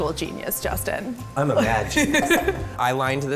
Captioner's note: laughter